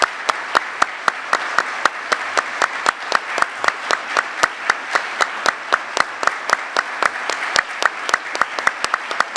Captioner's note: applause